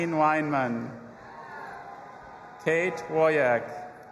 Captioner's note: audience applauding and cheering